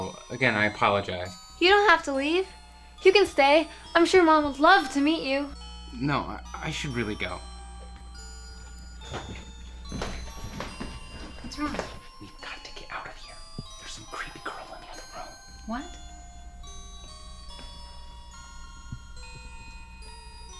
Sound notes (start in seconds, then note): 12.4 whispering; 16.8 chilling music continues